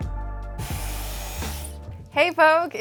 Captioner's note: upbeat music; hairdryer blowing